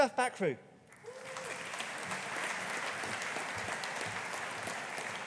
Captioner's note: audience applauding